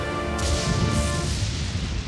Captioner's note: lighting bursts